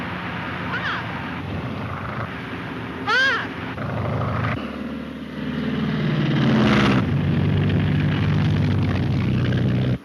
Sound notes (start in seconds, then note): 5.4 plane engine roars